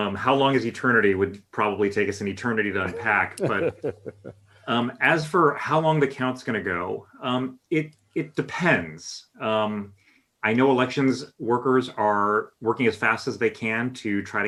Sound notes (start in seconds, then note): 2.8 laughter